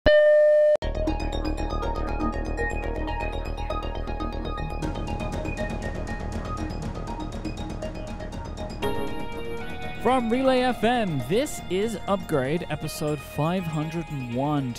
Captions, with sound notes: (beep) (upbeat music) - From Relay FM, this is Upgrade episode 501.